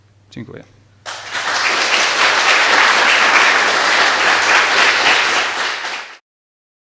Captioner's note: applause